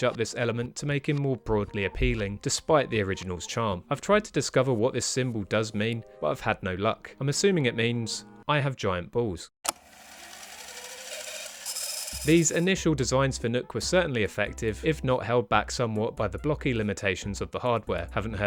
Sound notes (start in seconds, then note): 10.1 fast forward sound effect